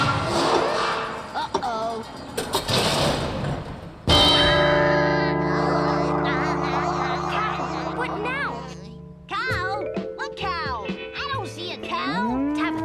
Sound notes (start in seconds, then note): 1.6 clock crashing; 4.0 loud ring; 12.0 cow mooing